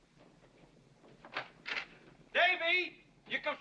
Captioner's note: door opens